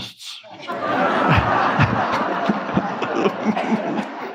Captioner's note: all laughing